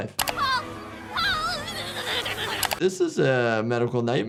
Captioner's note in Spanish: personaje gritando y zapping